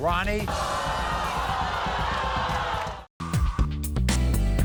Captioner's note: audience screaming